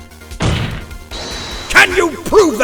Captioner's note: slam